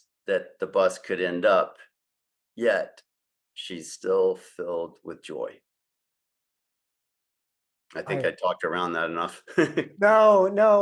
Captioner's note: laughs